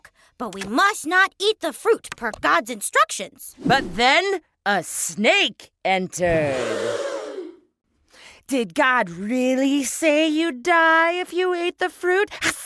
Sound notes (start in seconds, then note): 6.5 audience gasps